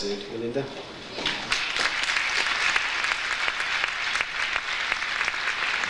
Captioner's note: audience applauds